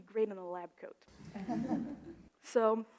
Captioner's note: audience laughs